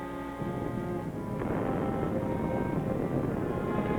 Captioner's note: dramatic music; volcano rumbling